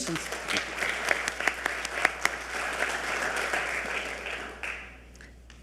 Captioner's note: audience applauding